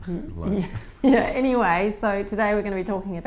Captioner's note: laughter